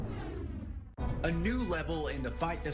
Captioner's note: swoosh